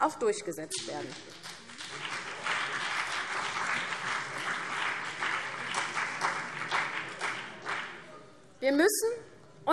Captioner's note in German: Beifall CDU und BÜNDNIS 90/DIE GRÜNEN